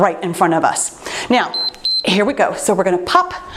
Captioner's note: timer beeps